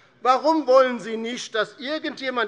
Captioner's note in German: none